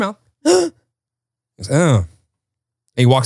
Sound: gasps

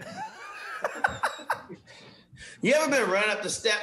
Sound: laughing

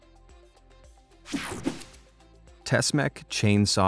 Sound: air whooshing

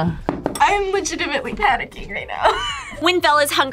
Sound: laughs

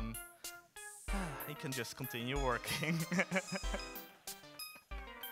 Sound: music slows; sighs; laughs

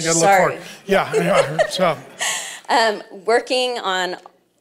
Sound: laughs

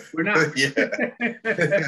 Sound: laughs

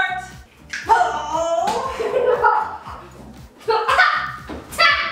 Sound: laughing and coughing

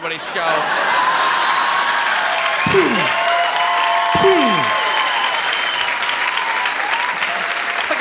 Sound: loud laughter

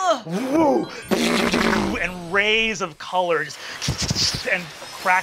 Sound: hisses

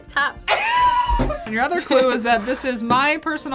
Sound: laughs

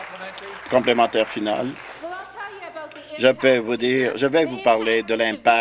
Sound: applause

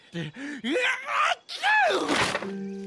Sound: sneeze

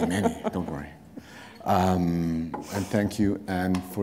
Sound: chuckle

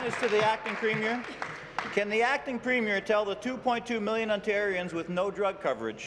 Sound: applause

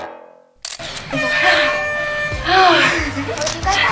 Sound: air horn blowing; panting

